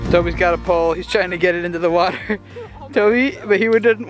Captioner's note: gentle acoustic music; laughs